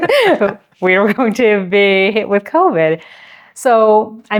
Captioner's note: both laughing